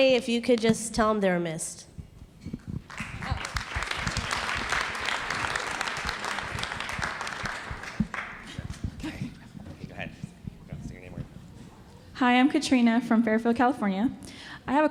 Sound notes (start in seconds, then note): 2.8 audience applauds; 8.6 indistinct conversation